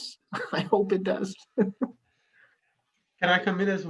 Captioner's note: laughs